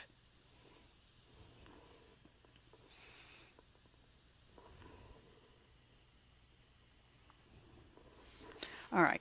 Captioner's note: long pause